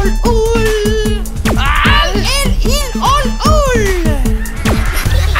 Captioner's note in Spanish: Risas